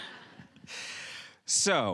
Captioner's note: laughing